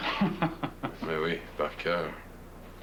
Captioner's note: Rire